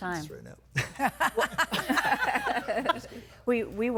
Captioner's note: laughing